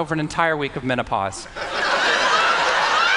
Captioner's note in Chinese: 笑聲